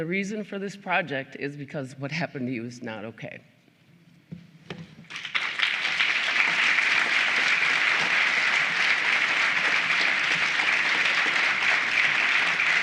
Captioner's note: applause